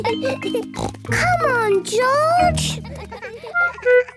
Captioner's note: laughs; snort